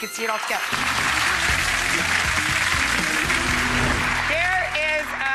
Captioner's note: audience applauding; rock 'n roll music